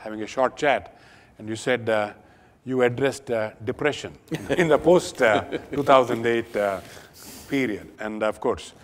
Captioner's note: Sadhguru Laughs